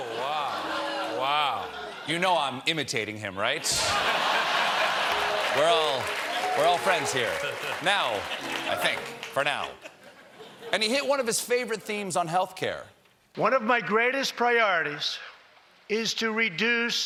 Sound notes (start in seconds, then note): 3.6 laughter